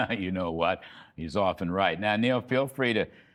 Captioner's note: laughter